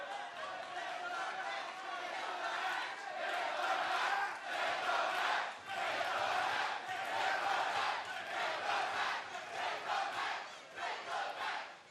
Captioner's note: fans chanting